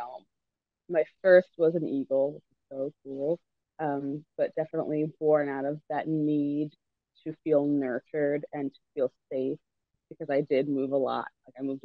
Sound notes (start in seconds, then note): none